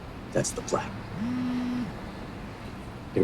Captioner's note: cell phone buzzes